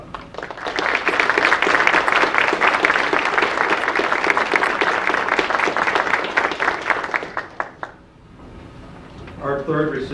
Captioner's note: audience applause